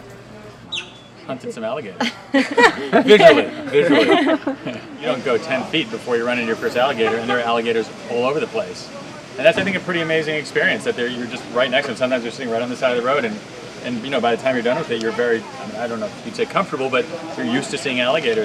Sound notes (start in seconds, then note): 2.0 laughing